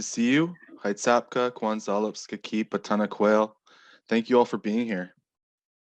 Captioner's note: speaking Hul'qumi'num